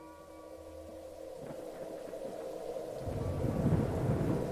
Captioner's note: wind gusting